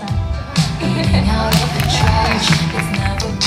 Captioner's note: people laughing